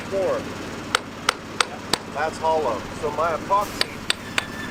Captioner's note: hammer tapping